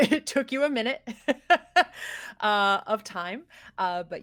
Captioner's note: laughs